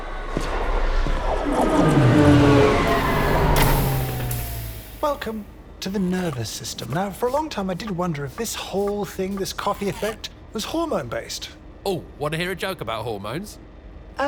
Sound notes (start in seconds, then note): 0.0 train whirring; 2.8 train hissing